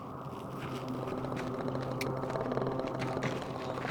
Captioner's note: low inhuman growl